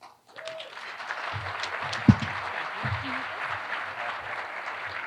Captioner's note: audience applauding